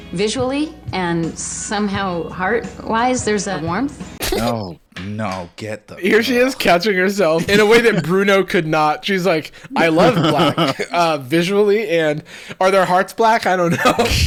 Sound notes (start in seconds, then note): 4.2 laughing